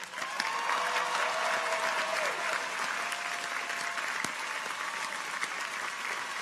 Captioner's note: audience applauds; people cheer